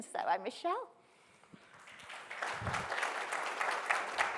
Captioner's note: applause